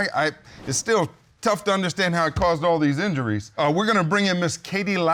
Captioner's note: stammers